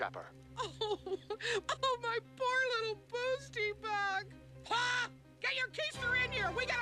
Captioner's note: crying